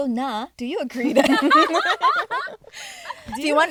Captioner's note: girls laughing